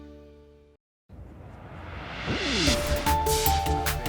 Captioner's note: air whooshing; upbeat music